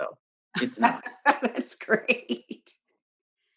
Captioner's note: laughing